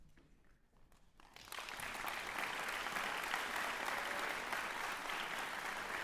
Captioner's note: applause